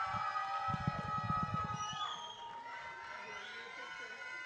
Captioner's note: audience cheering